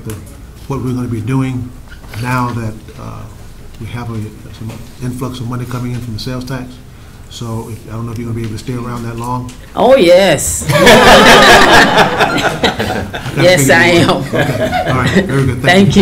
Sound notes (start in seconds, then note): 10.7 laughing